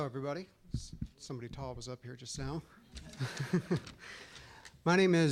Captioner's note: all laughing